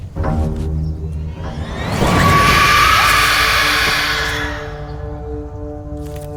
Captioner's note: dramatic, ominous music; loud, shrieking